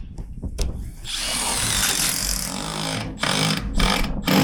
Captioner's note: drill drilling